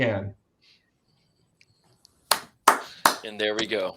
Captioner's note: applause